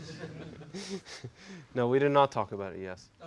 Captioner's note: laugh